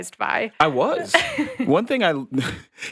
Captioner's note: chuckles; laughing